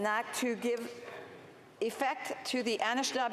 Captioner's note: speaking French